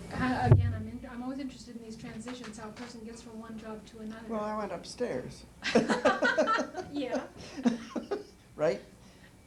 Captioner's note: laughter